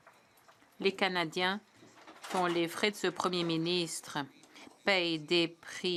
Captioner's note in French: voix de l'interprète